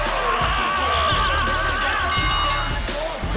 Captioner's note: Je'Von screams; bell rings